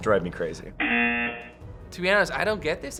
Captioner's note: buzzer